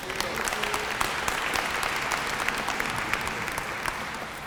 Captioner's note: applause